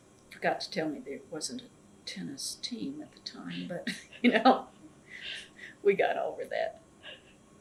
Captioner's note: laughs